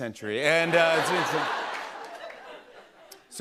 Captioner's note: laughter